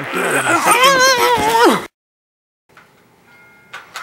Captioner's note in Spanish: se escucha vomitando